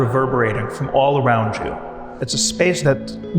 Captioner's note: voice reverberates strongly